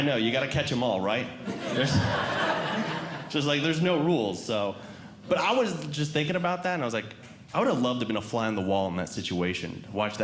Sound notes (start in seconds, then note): 1.5 audience Laughing